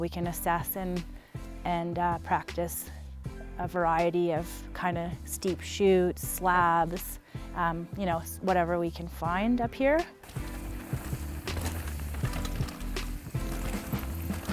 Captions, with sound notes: we can assess and practice a variety of, kind of, steep shoots, slabs, ya know, whatever we can find up here. (bikes clanking)